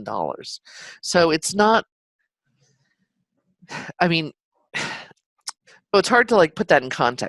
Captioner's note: sighs